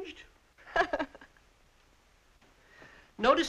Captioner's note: laughing